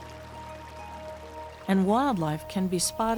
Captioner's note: stream running